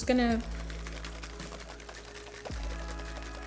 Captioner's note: shaking whipped cream can